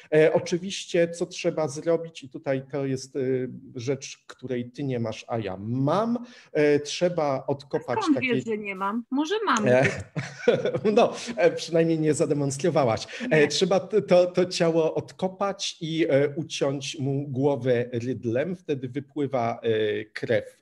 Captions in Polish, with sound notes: Oczywiście, co trzeba zrobić i tutaj to jest rzecz, której ty nie masz, a ja mam, trzeba odkopać... Skąd wiesz, że nie mam? Może mam gdzieś? [śmiech] Przynajmniej nie zademonstrowałaś. Trzeba to ciało odkopać i uciąć mu głowę rydlem, wtedy wypływa krew,